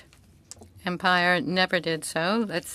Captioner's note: speaking French